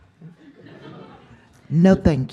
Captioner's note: laughter